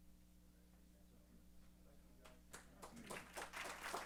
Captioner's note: chatter; applause